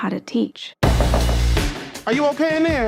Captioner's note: Damian knocking